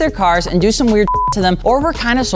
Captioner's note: beep